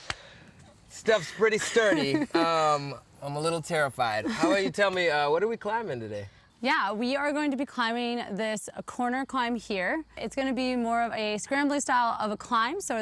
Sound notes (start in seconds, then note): 1.6 laughs